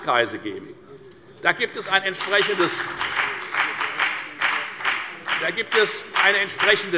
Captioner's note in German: Beifall bei der FDP